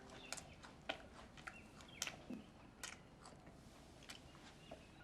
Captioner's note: chewing loudly